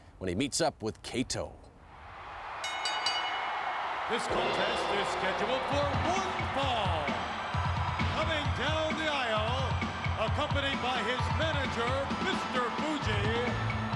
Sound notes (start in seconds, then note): 2.6 bell dings